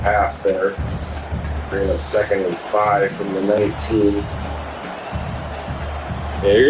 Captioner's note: crowd Noises